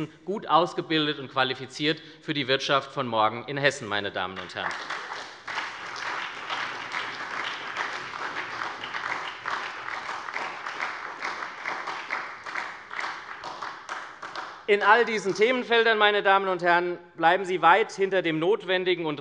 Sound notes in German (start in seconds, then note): 4.3 Beifall bei der SPD